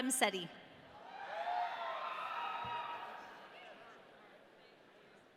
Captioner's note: audience cheering